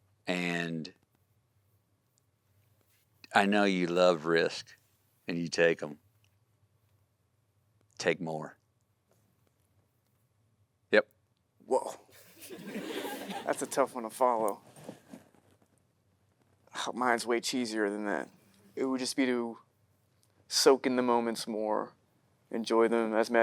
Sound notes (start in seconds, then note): 12.3 audience laughing